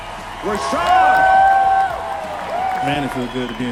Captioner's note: cheering, applause